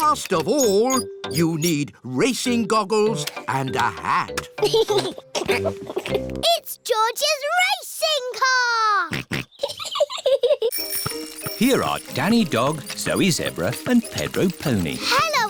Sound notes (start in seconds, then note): 4.6 chuckles; 9.2 snorts; 9.2 chuckles